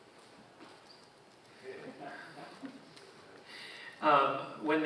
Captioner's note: audience chuckling